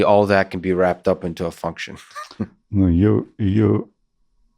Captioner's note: chuckles